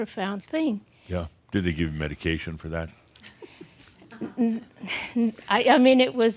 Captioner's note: a few giggles